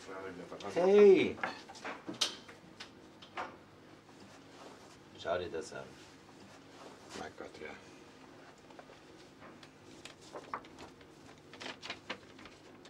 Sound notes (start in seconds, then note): none